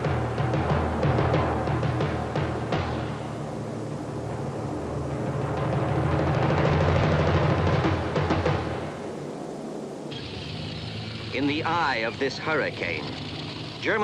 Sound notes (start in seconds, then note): 0.7 planes roaring